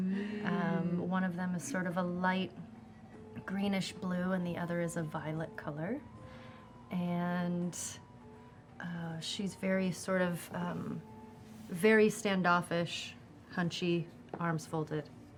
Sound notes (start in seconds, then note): none